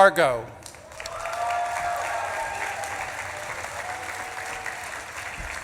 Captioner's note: audience claps and cheers